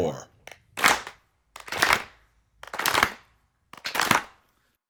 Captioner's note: clap , Clap , Clap , Clap